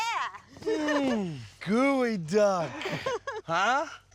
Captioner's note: laughing